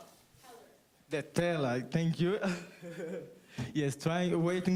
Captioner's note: laughs